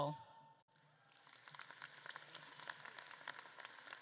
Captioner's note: audience claps